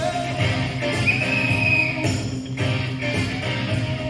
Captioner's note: whistle blows